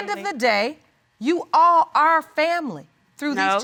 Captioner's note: none